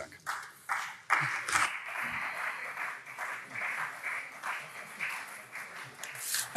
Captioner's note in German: Beifall CDU und SPD